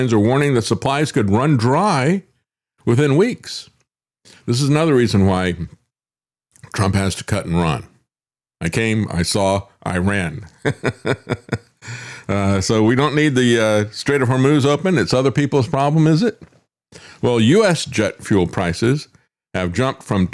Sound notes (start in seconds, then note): 10.5 laughs